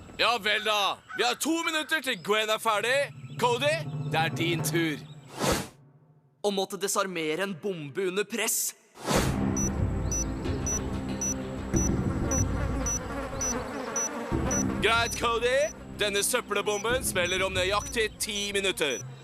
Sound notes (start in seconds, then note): 9.0 ticking; 12.4 flies buzzing